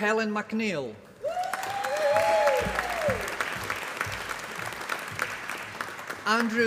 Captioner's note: applause